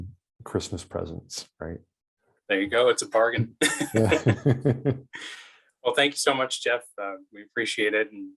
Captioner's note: laughs